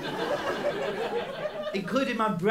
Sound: laughter

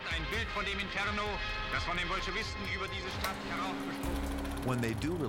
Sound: German dialogue

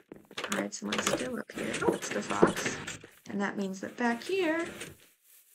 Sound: none

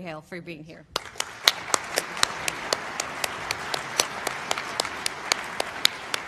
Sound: applause

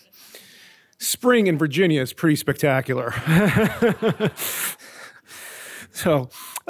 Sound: chuckles

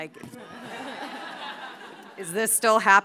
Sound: audience laughing

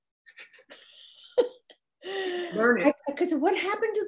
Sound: laughs

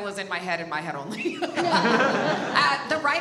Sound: all laugh

